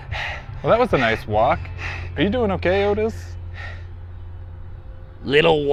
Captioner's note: breathing heavily